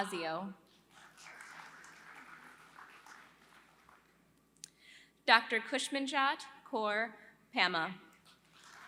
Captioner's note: applause; applause